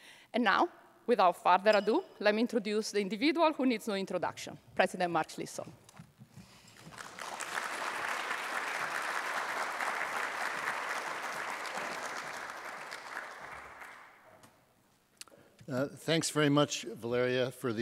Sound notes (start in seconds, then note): 6.6 audience applauds